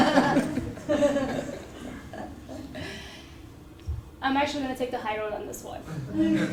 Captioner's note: laugh